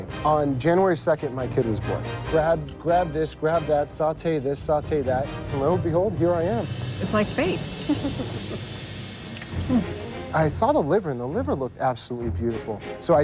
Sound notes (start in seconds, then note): 7.8 laughter